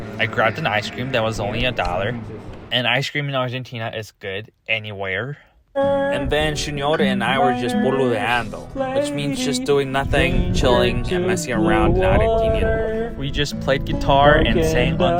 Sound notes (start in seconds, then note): 12.4 Spanish